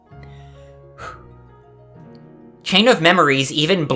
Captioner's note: exhale